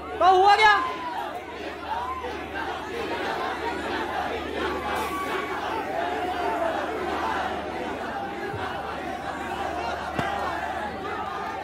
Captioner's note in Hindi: चियरिंग